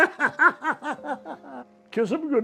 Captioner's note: laughs